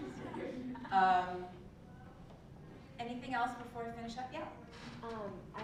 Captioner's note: laugh